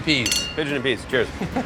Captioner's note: glasses clink